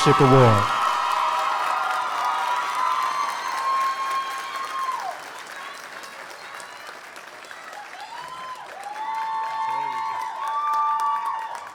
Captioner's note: applause